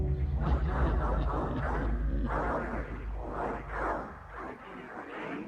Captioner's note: tense tones; eerie, distorted speaking